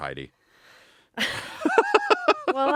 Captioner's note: laughing